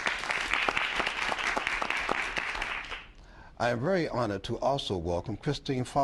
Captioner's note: applause